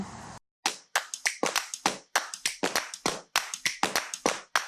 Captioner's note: upbeat clapping